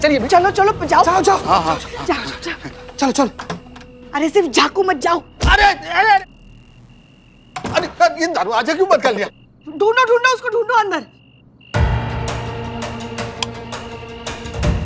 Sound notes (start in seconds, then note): 5.3 exclaims; 11.7 dramatic music